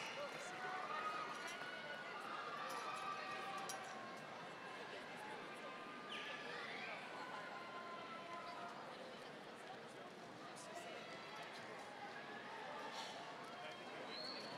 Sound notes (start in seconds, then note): none